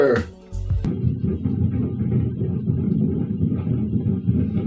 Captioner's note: boat engine rumbling